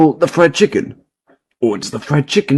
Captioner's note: Silencio 🤑